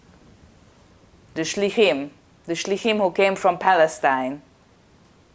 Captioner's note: hebrew